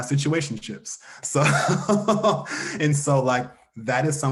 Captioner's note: laughs